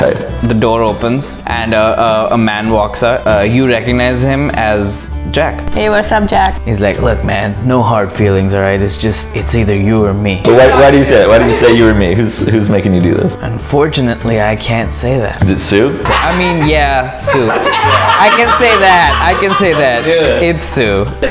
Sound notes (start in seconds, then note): 17.2 laughter